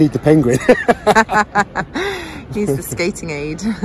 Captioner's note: laughs